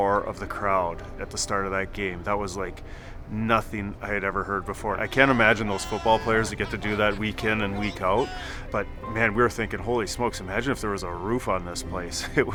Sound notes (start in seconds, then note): 5.0 people shouting